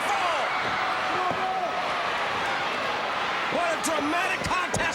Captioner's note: crowd cheering